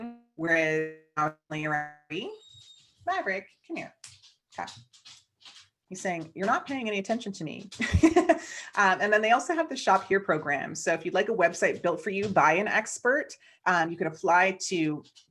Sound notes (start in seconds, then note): 1.9 audio drop; 7.8 chuckles